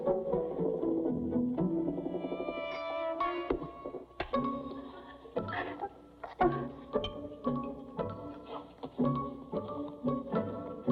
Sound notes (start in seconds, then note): 5.4 whimpers